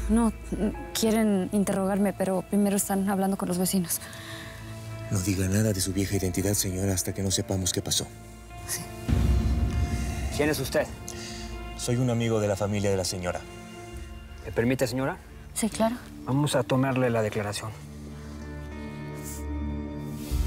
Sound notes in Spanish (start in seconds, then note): 5.2 voz baja